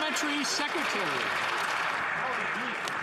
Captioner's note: some Applause